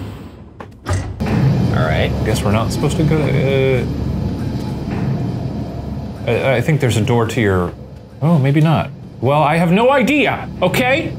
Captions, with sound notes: All right, I guess we're not supposed to go. (elevator humming) - I think there's a door to your... Oh, maybe not. Well, I have no idea, okay?